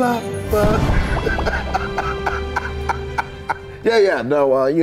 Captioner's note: laughing